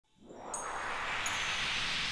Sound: swoosh and chimes

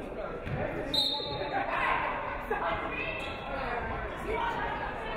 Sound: referee whistles

